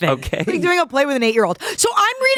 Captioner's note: laughs